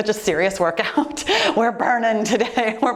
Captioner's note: laughing